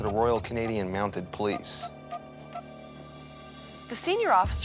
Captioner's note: beeping